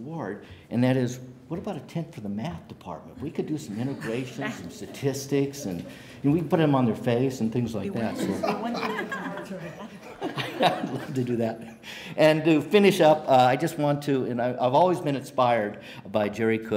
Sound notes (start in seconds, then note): 8.0 laughter